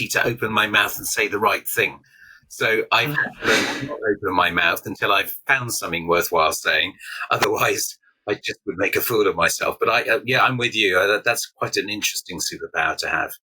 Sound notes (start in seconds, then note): 3.0 chuckles